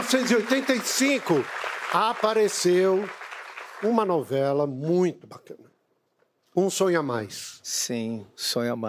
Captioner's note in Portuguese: aplausos